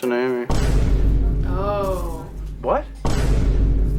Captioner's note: VINE BOOM sound effect